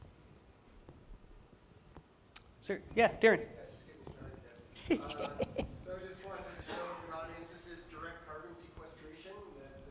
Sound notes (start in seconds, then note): 4.8 laughs